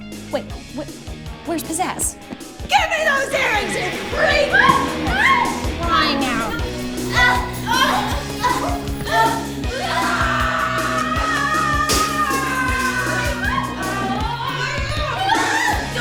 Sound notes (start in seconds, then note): 4.8 yells Alarmingly; 6.9 fight yelling and panting; 10.6 yells fiercely; 13.8 fight yelling and panting